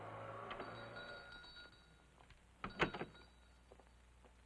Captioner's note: bell ringing